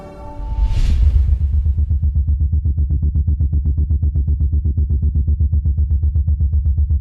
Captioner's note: suspenseful music; air pulsing